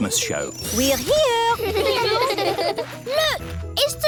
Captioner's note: children giggling